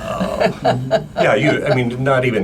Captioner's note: laughs